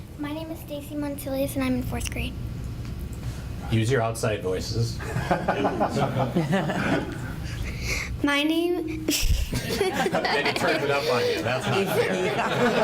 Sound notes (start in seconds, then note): 5.0 group laughs; 9.1 laughs